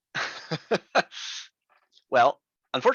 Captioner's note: instructor laughs